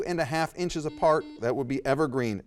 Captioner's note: buzzer dings